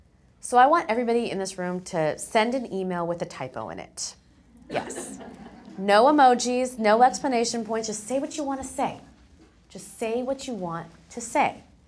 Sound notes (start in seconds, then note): 4.6 laugh